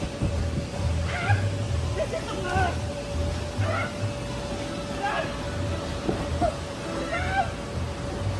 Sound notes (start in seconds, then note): 3.0 grunt and scream